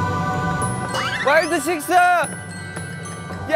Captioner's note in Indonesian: Menangis dengan keras